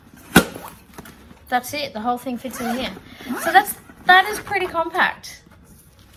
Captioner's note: zips